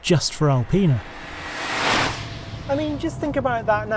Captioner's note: car revving